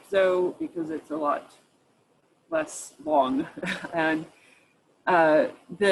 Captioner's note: chuckles